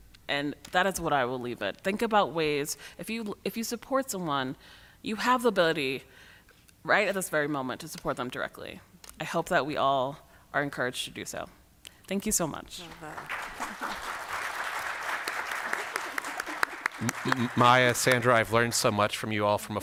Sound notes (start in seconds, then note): 12.8 applause